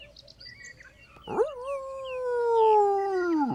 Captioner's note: howls